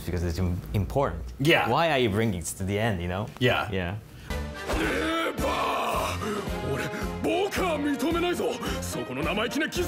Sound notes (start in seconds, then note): 4.8 character yelling in Japanese